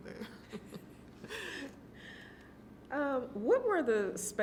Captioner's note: laughing